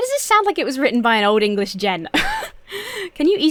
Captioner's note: chuckles